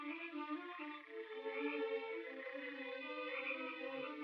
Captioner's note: suspenseful orchestral music; frogs croaking